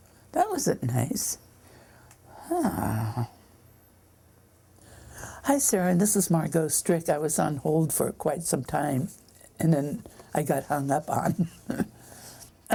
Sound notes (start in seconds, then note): 2.6 groans; 11.4 chuckles